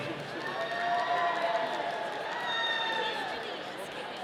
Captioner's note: audience cheering